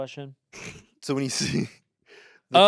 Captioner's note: Anthony laughs